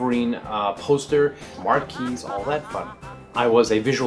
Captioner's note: laughter in background